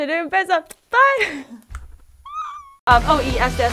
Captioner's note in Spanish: risa